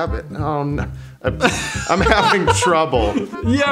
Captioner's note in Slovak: smiech